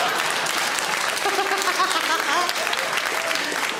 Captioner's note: audience claps; Sarah laughs